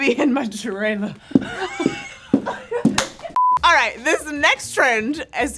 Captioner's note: all laughing